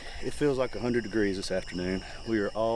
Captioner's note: crickets chirp